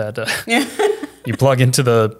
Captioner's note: both laugh